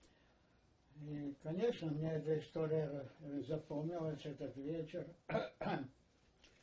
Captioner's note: coughing